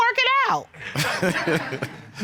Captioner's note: laughs